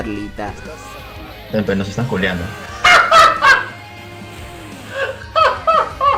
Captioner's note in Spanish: Risa del Host